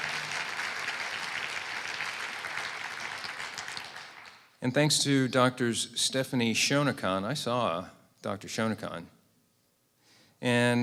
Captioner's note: applause and cheers